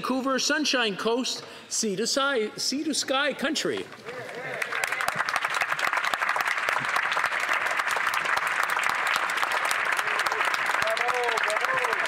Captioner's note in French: voix de l'interprète